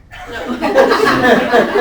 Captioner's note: laughter